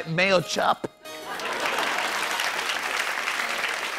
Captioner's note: laughter and applause